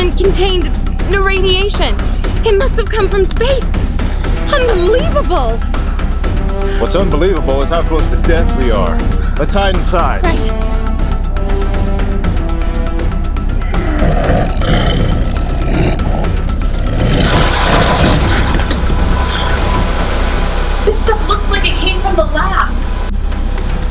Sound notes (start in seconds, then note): 13.6 snarling; 23.6 dramatic music